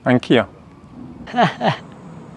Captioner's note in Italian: risate